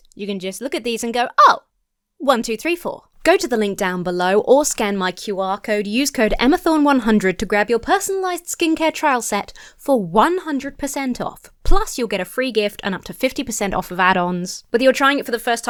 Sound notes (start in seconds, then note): none